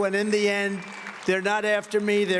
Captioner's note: cheers and applause